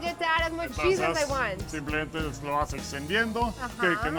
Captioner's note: speaking Spanish